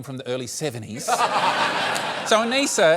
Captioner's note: laughter